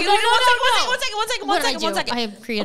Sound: yelling together

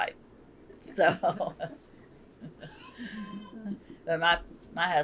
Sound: laughter

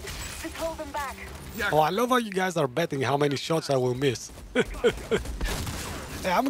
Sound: laughs

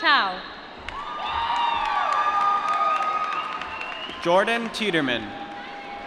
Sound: applause

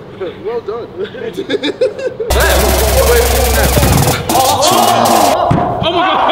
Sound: laughs

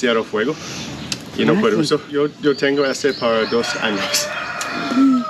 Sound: speaking spanish; laughter; speaking spanish

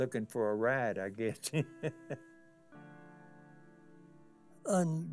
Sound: chuckles

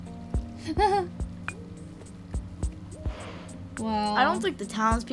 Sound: Sabrina laughs

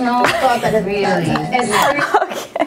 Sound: laughs

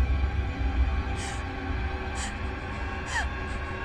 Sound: music intensifies; scared breathing

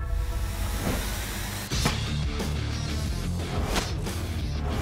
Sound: chopping

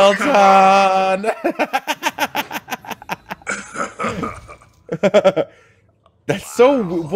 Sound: laugh

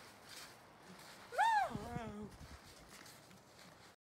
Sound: whooping

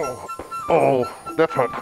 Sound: groaning

